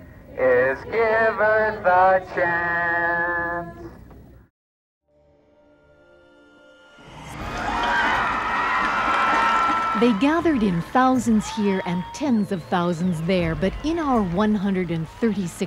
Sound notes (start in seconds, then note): 9.0 cheering